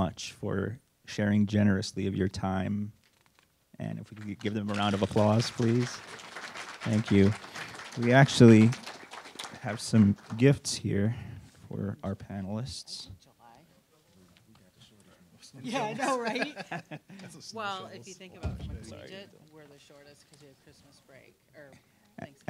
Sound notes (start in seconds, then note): 4.0 applause; 13.8 laughing